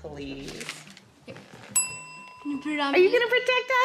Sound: bell dings

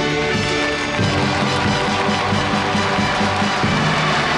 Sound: audience applauding

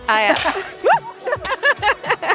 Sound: laughter; pop

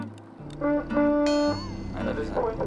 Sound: shiphorn blowing

